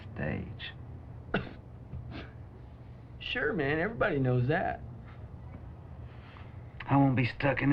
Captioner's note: coughs